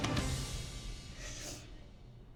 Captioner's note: sniffs